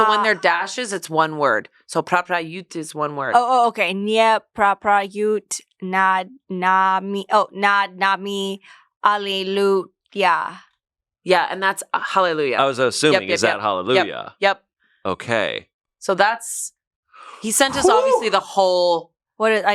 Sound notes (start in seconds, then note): 1.9 speaks is foreign language; 4.6 speaks in foreign language